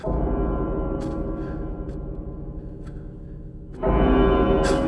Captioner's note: clock chime